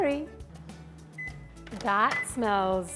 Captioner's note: microwave beeps